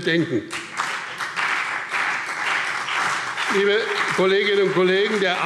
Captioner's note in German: Beifall BÜNDNIS 90/DIE GRÜNEN und CDU